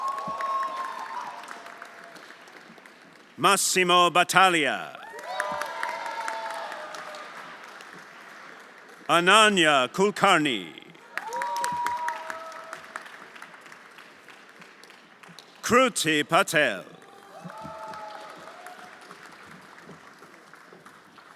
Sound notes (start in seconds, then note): 0.0 everyone applauding and cheering; 5.5 everyone applauding and cheering; 11.6 everyone applauding and cheering; 17.9 everyone applauding